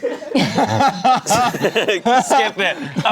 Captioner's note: everyone laughs